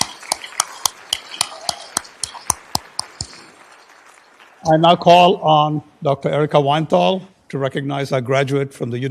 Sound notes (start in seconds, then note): 0.0 applause